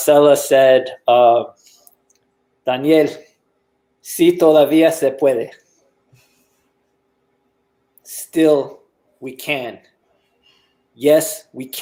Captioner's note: Spanish